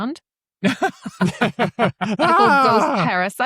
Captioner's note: laughter